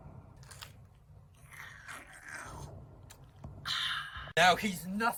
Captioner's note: vampire noises